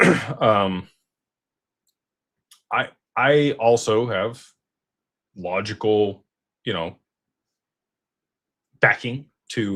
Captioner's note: clears throat